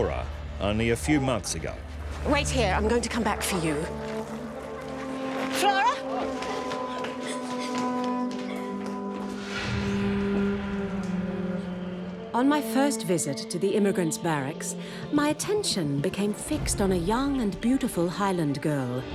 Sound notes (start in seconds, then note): 5.6 Flora crying